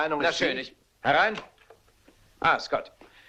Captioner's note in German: Klopfen